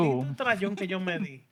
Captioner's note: non-english Speech